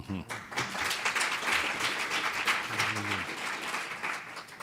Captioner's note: audience applauding